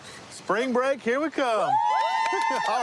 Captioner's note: cheering